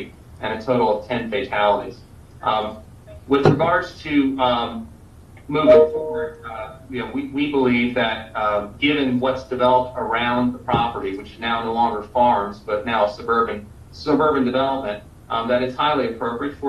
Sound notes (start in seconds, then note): 5.6 beep